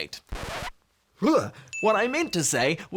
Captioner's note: record scratching